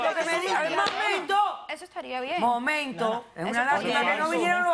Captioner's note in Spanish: Hablan al unísono